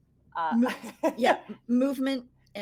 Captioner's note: laughing